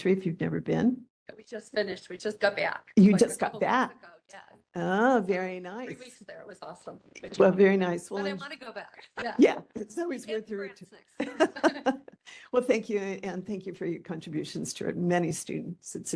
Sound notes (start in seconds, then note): 10.8 laugh; 10.8 laughing